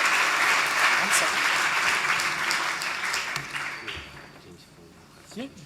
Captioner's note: chattering faintly